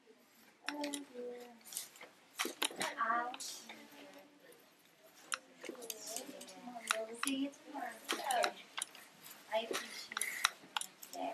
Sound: clicking noise and background chatter

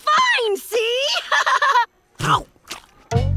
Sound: laughing

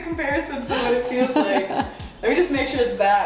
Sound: laughing; laughs

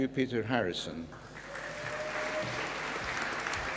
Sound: applause

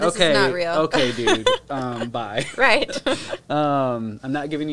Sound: laughs

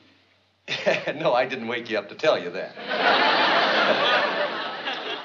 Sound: chuckles

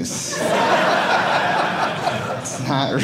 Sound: audience laughing

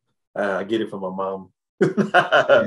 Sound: laughs

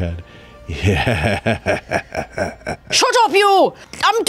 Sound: chuckles

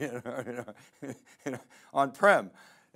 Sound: laughing

